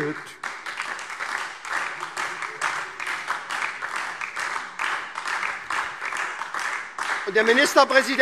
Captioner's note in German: Beifall SPD und DIE LINKE